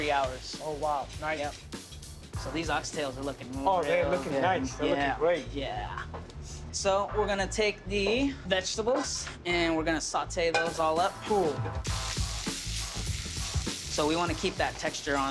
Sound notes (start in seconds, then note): 11.8 sizzling